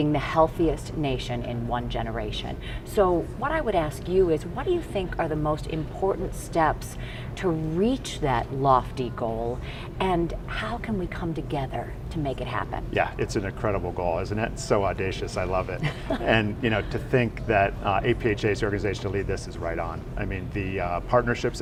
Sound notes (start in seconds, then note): 15.8 interviewer laughs